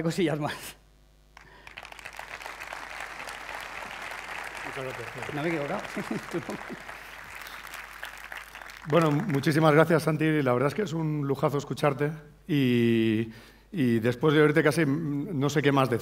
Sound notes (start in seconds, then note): 1.3 applause; 10.0 speaking spanish